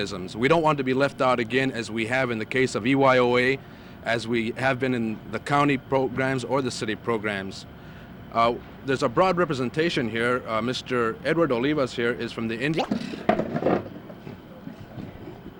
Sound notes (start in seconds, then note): 12.7 camera noise; 13.5 clatter